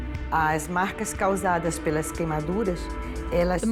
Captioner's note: speaking Portuguese